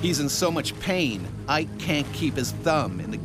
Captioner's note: voiceover